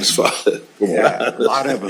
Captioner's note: laughs